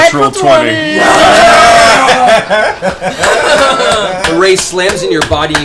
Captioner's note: cheering